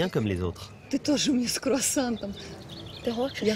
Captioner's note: speaks in Russian